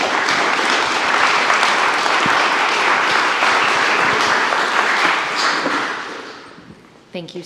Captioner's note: applause